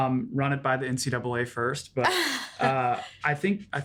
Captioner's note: laughs